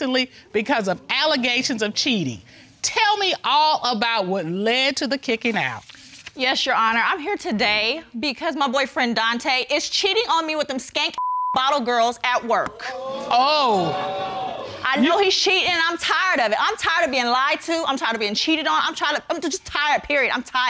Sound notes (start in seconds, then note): 12.8 audience exclaims